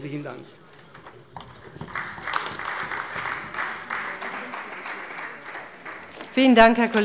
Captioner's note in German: Beifall bei der CDU